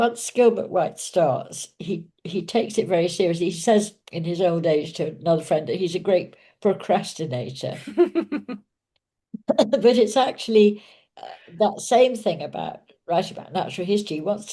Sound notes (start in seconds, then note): 7.7 laughing